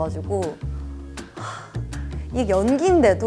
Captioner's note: sighs